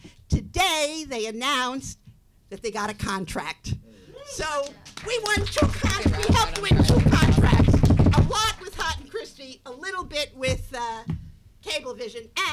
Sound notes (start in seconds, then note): 4.6 audience applauding